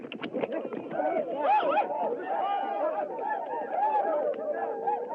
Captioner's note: whooping